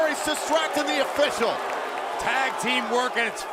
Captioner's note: crowd cheering